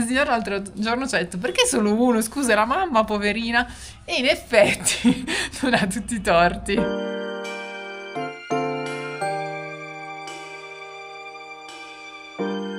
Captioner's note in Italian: risate